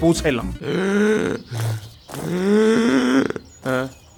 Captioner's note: heavy, pained breathing